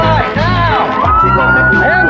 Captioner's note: sirenwail